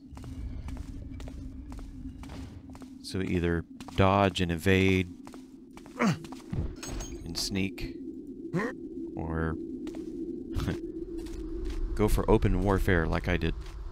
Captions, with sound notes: So either dodge and evade and sneak or [chuckles] go for open warfare like I did.